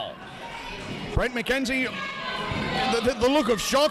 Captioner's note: audience yelling loudly